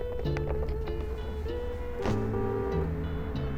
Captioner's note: jiggling; horn honks